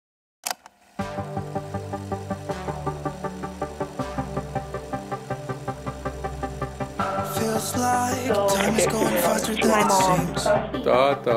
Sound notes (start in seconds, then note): 0.6 video tape clicks; 1.8 happy music